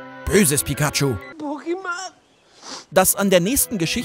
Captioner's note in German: Traurige Laute, Schniefen